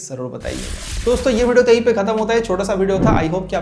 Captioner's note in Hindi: नाक से की जाने वाली आवाज़